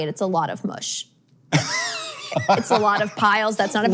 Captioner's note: laughs